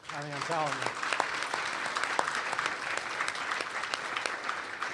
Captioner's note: applause